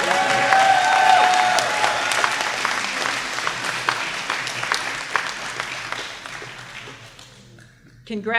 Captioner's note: applause